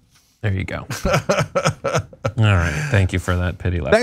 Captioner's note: laugh